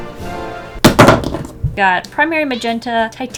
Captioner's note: drops blue paint